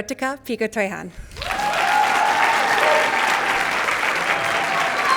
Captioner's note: cheers, applause